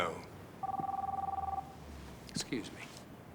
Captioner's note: phone ringing